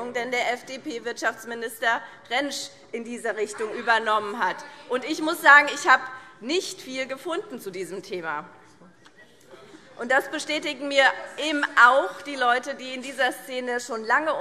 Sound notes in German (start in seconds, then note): 8.5 Widerspruch Freie Demokraten